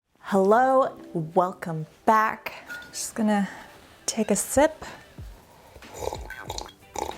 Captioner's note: slurping